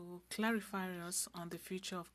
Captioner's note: speaking French